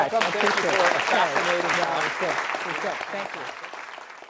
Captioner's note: applauding